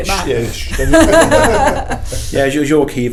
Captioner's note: laughs